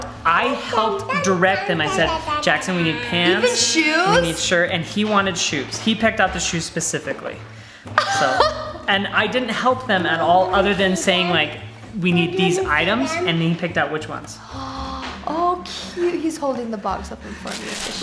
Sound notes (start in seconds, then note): 8.0 laughs; 14.4 gasps